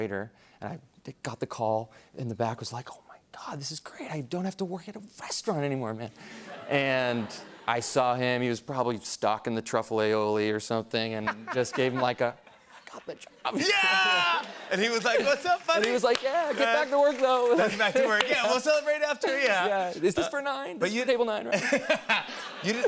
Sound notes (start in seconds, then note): 6.4 laughter